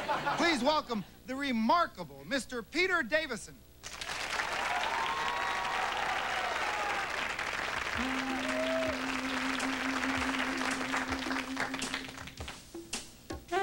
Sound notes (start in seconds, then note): 3.9 cheers